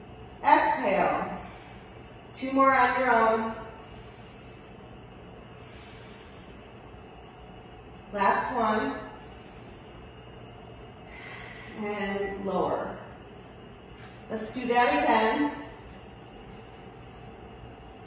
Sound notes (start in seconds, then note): 1.0 exhales; 3.8 inhales; 5.2 exhales